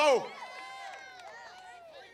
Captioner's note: applause